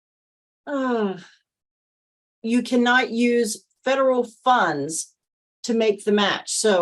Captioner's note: sighs